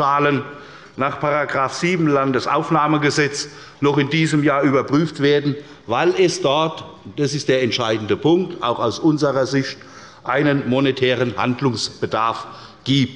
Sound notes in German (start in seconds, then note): none